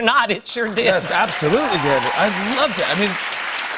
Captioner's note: cheers and applause